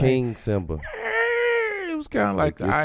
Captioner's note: whimpering